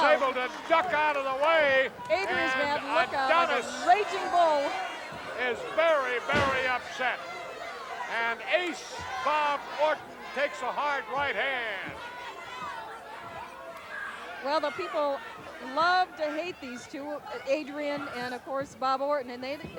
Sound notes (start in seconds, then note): 12.6 audience chattering